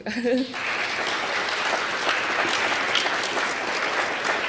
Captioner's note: applause